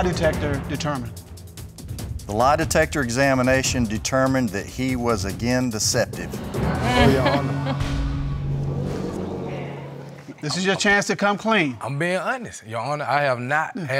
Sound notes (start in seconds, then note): 6.6 chuckles in frustration